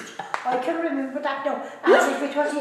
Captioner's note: laughter